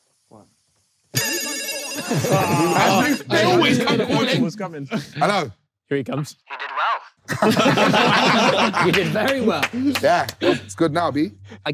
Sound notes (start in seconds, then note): 1.1 phone ringing; 7.3 everyone laughing